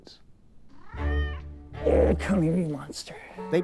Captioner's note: cat meows